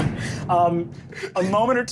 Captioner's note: door thudding